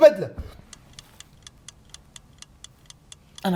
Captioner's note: clock ticking; holds breath